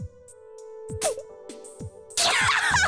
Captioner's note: sputter; laugh